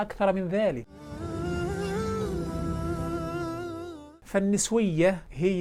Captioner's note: logo and sound effect